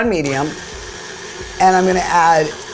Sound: machine whirs

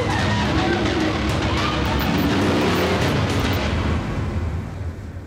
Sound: motorbike revs

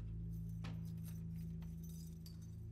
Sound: thumps

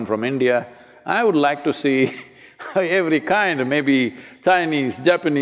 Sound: laughs

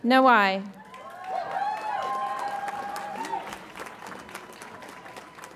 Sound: audience applauds and cheers

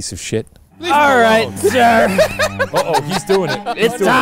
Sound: laughing

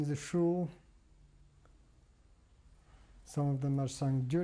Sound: pauses for 3 seconds

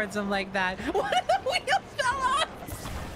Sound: laughing

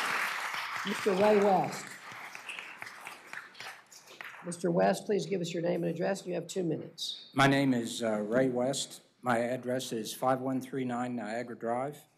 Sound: applause

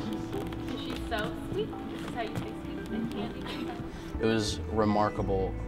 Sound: background conversations

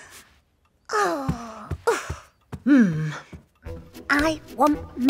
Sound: gasps

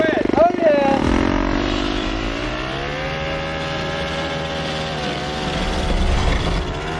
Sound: engine revving increases; suspenseful music

